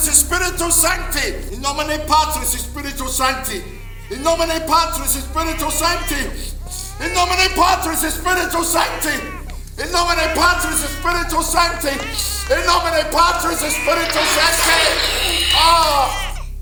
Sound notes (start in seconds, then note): 1.2 Van Helsing continues to yell his Latin prayer; 1.2 baby crying